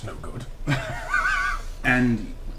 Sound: all laugh

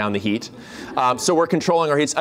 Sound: laughter

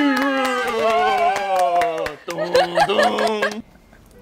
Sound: clap clap cheer cheer

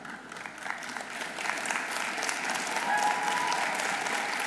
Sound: audience applauding

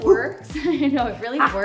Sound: laughs

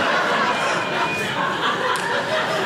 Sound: audience laughing

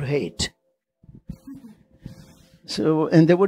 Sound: chuckles

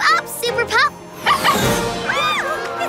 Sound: barking; screaming

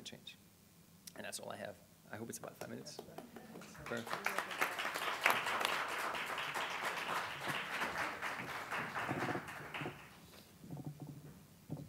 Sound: applause

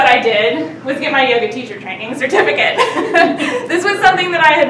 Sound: laughing

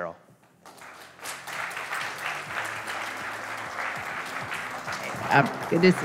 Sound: audience clapping

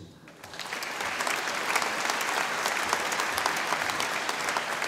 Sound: audience applauding

